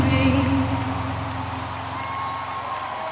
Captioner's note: cheering